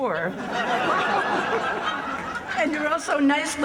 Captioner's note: laughter